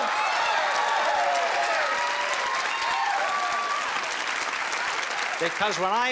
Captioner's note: cheering